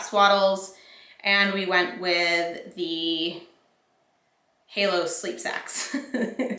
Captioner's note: laughs